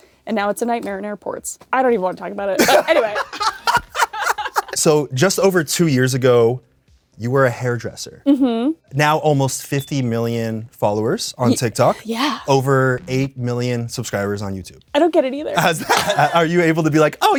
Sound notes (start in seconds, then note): 2.6 cracks up; 2.6 both laugh